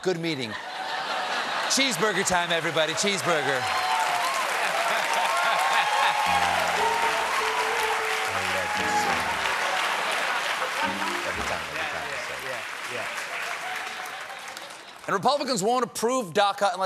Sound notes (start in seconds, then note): 4.2 cheers and applause; 4.2 piano riff